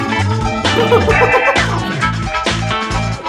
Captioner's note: laughing